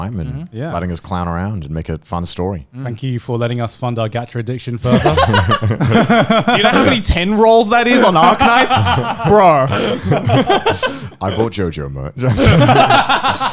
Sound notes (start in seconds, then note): 4.8 laughing